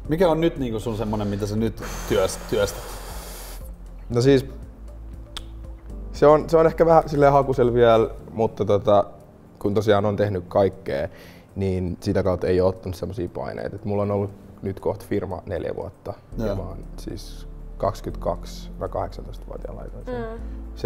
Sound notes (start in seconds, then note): 1.8 exhales deeply